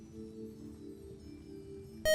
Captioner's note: buzzer